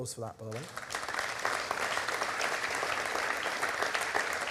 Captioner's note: crowd claps